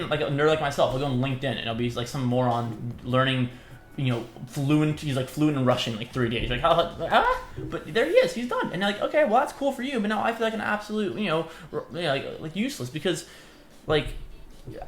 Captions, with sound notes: a nerd like myself i'll go on linkedin and it'll be like some more on learning you know fluency he's like fluent in Russian like three days (surprised noises) but there he is he's done and like okay well that's cool for you but now i feel like an absolute you know yeah like useless because like